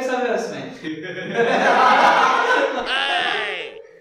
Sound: laughing

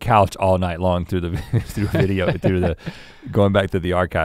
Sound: chuckles

